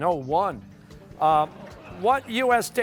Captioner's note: laughter